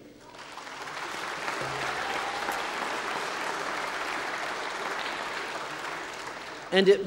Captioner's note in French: Applaudissements